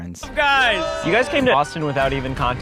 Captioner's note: cheering